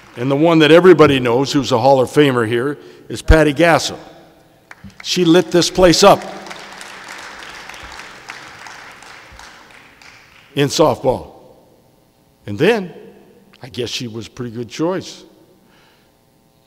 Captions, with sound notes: And the one that everybody knows who's a Hall of Famer here is Patty Gashel. (audience applauding) She lit this place up in softball. And then, I guess she was a pretty good choice,